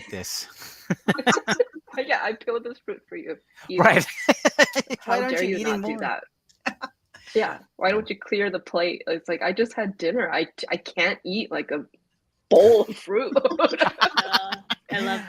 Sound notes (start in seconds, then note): 0.5 laughs; 3.7 laughs; 13.5 everyone laughs